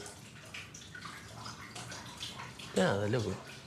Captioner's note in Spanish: agua corre